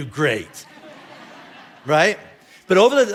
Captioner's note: congregation laughing